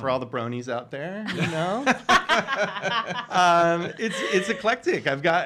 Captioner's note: all laughing